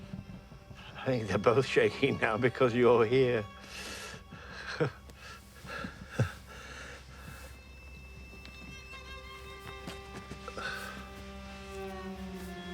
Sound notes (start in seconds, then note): 4.4 Jim chuckles; 6.1 somber orchestral music plays